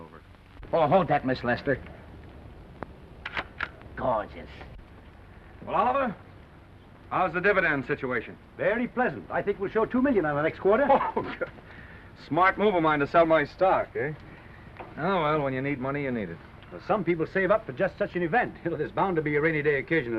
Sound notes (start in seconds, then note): 3.0 camera shutter clicks; 10.7 Maine laughs